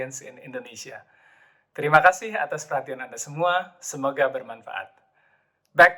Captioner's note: in indonesian